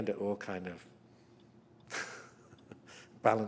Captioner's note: chuckles